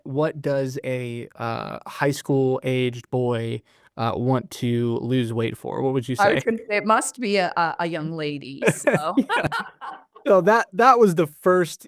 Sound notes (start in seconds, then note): 8.6 laughter